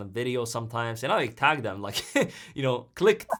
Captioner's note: chuckles